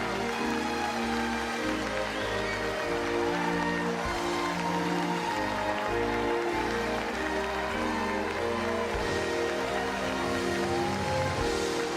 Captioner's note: applause